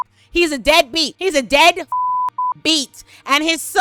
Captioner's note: beep